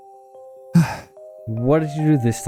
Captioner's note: sigh